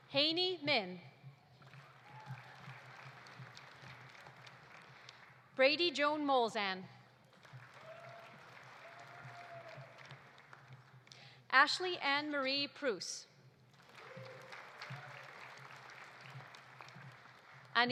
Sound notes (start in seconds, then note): 1.6 audience applauding; 7.2 audience applauding; 7.5 audience cheering; 13.7 audience applauding; 13.8 audience cheering